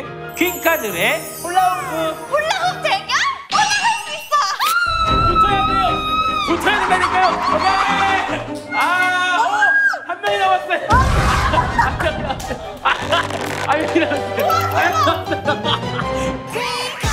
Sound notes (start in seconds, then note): 4.6 squealing; 10.8 yelling; 11.6 clapping